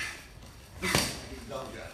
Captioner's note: clunk